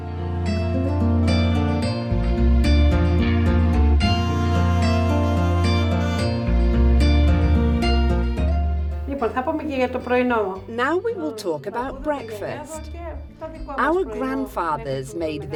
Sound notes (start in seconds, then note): 8.3 speaking Greek